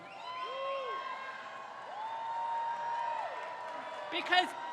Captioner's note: crowd cheers